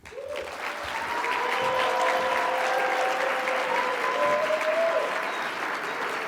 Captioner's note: audience clapping and cheering